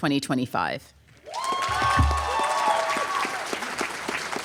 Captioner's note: applause